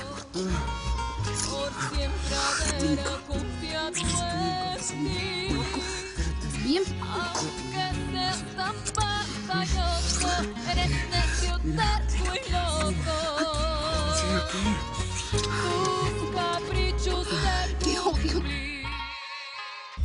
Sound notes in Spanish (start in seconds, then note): 14.4 Trino habla entre dientes